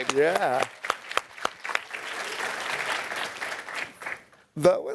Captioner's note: applause